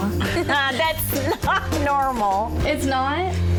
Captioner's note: laughs